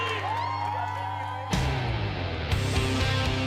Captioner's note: crowd cheering